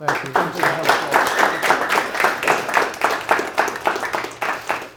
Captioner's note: audience applauding